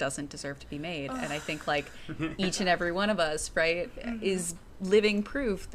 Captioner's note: sighs